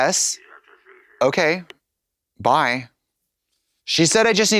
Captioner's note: throaty burbles